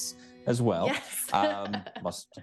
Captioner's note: chuckles